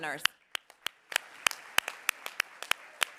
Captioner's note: applause